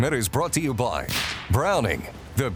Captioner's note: rifle fire banging